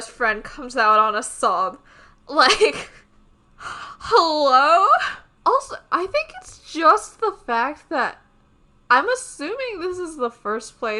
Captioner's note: laughs